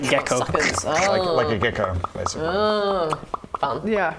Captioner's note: pop-pop-pop-pop-pop; pop-pop-pop-pop-pop-pop